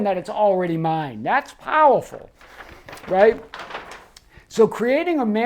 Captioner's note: paper rustles